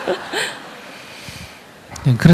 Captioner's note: audience Laughter